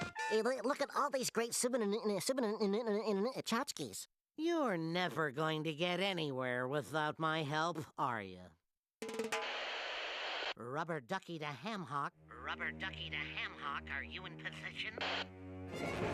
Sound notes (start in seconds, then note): 0.2 stuttering; 9.3 static buzzing